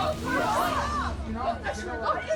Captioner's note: customers shouting